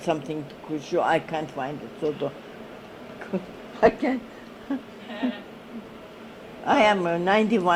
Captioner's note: laughs